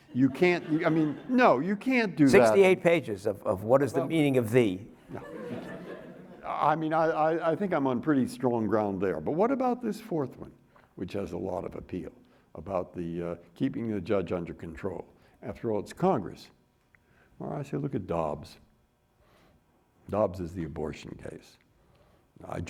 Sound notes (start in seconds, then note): 5.0 audience laughing